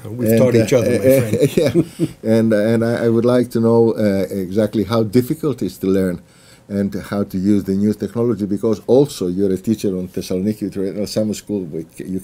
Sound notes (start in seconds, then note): 0.9 laughs